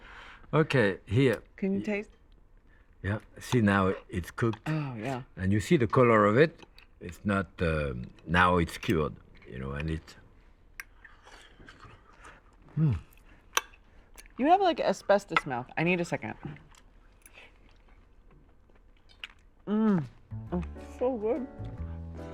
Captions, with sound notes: -Okay. Here. -Can you taste? -Yeah. See, now, it's cooked. -Oh, yeah. -And you see the color of it. It's not -- Now it's cured, you know, a little. -[ Blows ] -Mmm. -You have, like, asbestos mouth. I need a second. Mmm. That's so good.